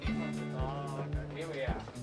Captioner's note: indistinct passenger chatter